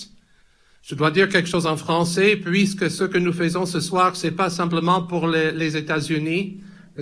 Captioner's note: speaks in french